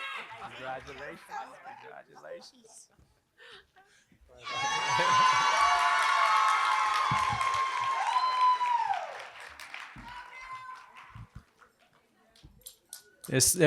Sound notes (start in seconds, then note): 8.3 applause